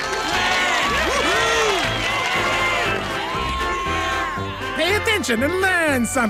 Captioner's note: cheering and applause